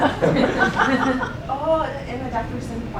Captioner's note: laughing